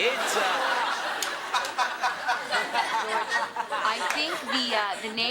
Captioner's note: audience laughs